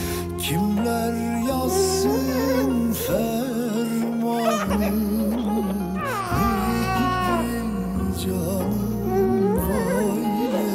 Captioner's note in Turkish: Bebek ağlaması